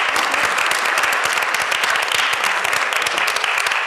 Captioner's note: applause